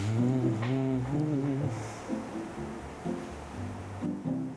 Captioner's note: he slowly fills the page while humming